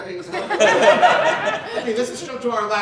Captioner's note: audience Laughing